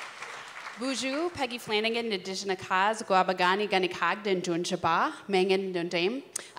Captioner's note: applause; speaking Ojibwe